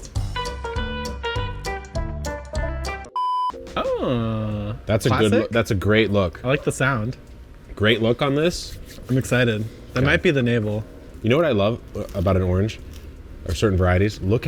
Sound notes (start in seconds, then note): 0.0 bright music; 3.2 audio beeps